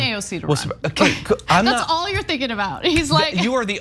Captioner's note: laugh